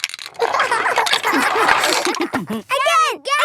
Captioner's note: laughter